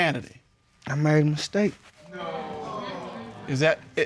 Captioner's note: audience exclaims